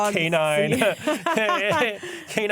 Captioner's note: laughter